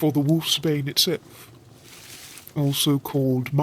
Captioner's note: plants rustle